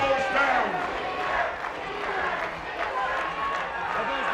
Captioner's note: audience chants